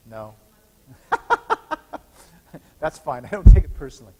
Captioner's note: laughs